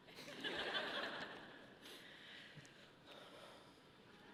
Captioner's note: audience laughing